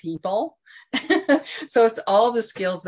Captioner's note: giggles